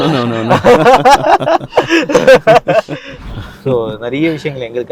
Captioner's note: everybody laughs